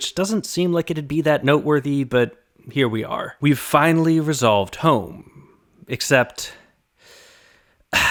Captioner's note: sigh